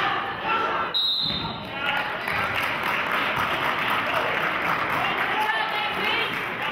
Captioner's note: whistle blows; clapping